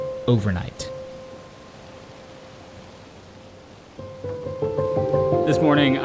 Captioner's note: rain pattering; somber music